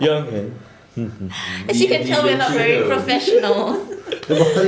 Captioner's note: hums the song